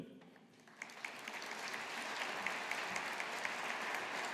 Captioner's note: audience applauding